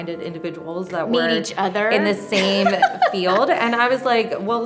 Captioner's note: laughing